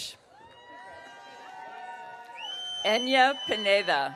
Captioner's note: audience cheering